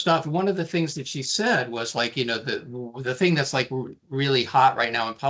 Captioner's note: none